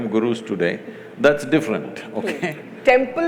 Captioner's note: laughs